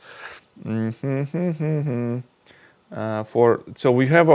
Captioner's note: hums